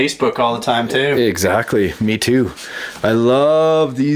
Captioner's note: voiceover